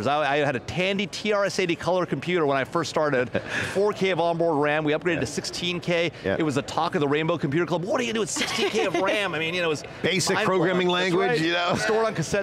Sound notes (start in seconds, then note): 8.3 laughing